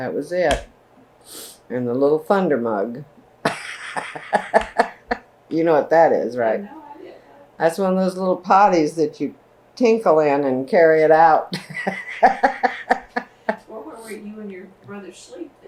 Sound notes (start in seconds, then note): 3.4 laughs; 11.5 laughs